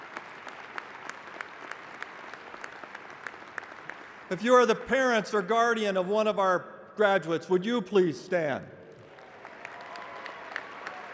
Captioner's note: applause